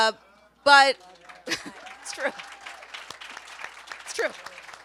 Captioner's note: audience applauds